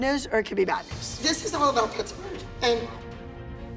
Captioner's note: voice breaking